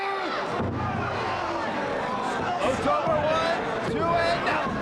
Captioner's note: audience gasping